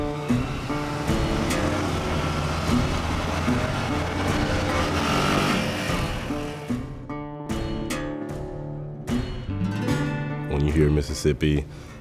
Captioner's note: engine running